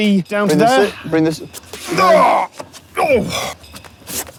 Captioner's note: grunts